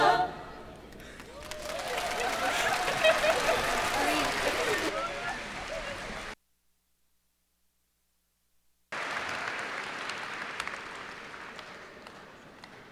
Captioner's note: cheers and applause